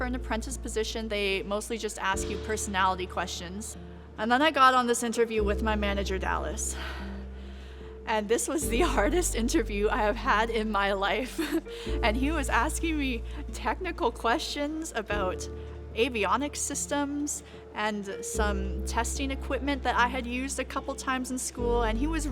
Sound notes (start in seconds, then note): 7.8 sighs; 11.7 laughs